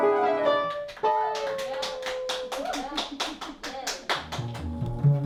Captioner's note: applause; bass guitar strumming